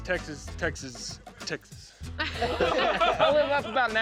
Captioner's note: all laughing